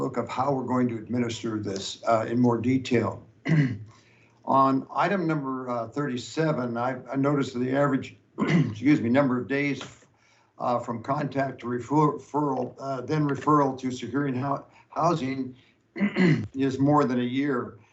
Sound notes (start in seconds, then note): 8.4 coughs